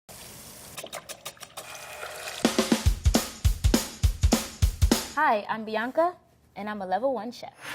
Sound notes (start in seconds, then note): 0.2 pan sizzling; 0.8 whisking sounds; 1.0 fryer sizzling; 2.4 upbeat music